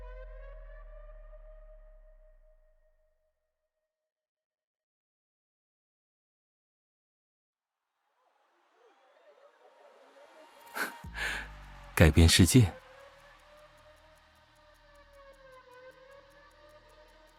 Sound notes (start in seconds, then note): 10.8 chuckles